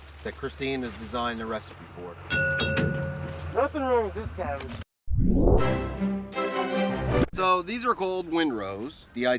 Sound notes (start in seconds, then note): 2.3 dinging; 5.8 classical music